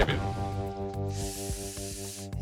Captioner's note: inhales sharply